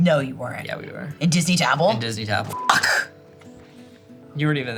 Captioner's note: beep